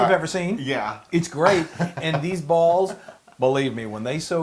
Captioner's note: laugh